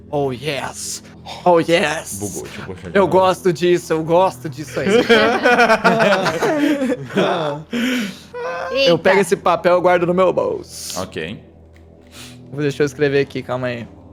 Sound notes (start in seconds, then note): 7.3 laughs